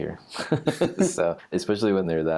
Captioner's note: laughs